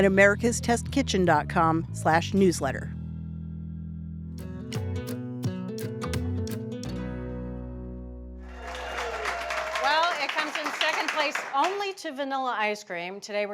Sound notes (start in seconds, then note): 4.1 laid-back music; 8.4 audience claps